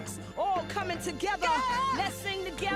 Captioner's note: narrator vocalizing